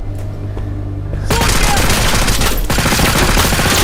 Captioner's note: soldier yelling